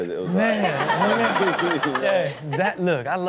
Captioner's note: Chanel and audience laugh